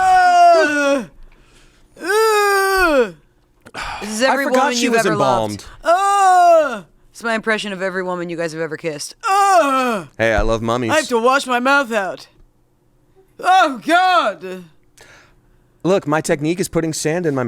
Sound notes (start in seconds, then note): 0.0 groans; 6.0 groans; 9.2 groans